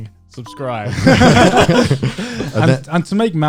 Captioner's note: guys laughing